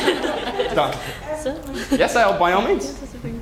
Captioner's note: laugh